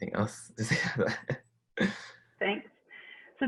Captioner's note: chuckles